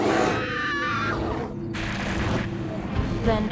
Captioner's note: screaming